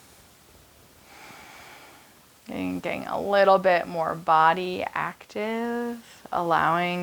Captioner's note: exhaling